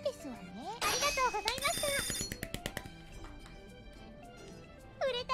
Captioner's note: Jerma clapping